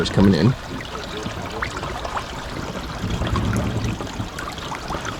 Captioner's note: water trickles